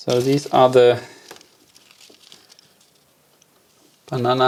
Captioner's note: plastic crinkling